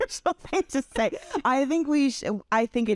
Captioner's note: laugh